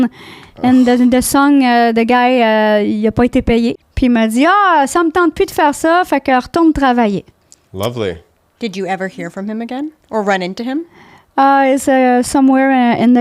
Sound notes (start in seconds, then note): 3.2 in french